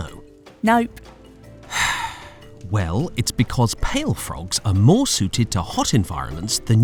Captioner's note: sighs